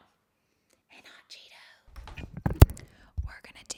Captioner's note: whispers; whispering